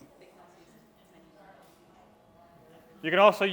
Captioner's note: crowd chattering